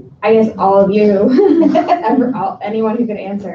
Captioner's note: laughs